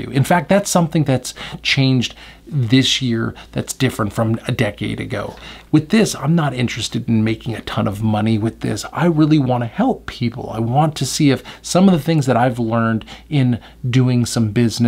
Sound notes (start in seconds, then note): none